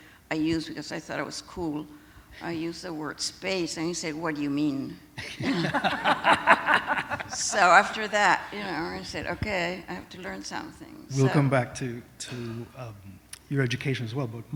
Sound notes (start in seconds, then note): 5.2 laughter